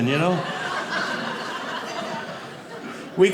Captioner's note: audience laughing